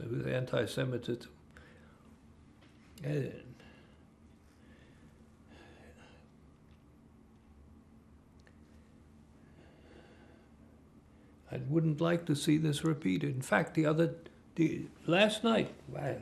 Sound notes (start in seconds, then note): 2.0 pauses 10 seconds